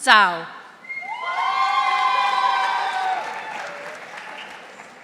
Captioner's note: audience applauding